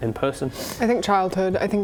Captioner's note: sniff